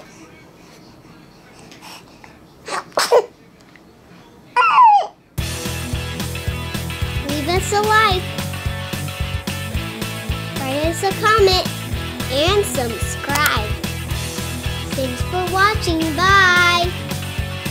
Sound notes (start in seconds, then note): 2.6 sneezes